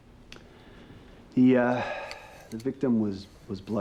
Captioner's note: sighs